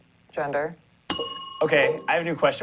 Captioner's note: bell rings